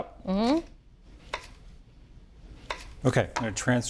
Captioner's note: knife chopping